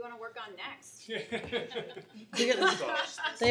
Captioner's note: laughter